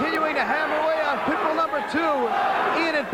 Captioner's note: crowd cheering; bell ringing